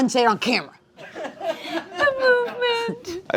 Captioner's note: laughs